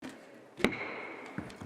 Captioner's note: gavel bangs